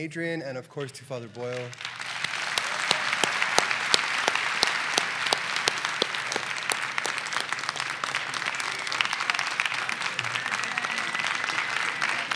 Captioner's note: applause